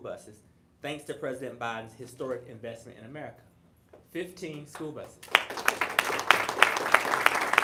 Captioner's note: applause